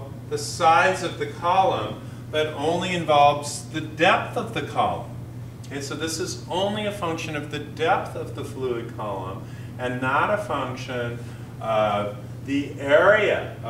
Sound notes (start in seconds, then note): none